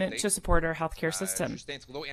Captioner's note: speaking French